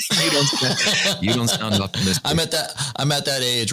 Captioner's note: laughter